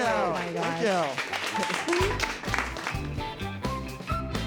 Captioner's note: group applauds; upbeat music